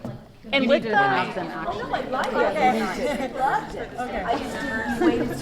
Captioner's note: chatter